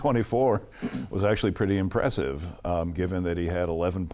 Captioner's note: clears his throat